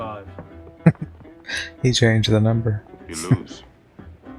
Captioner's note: chuckling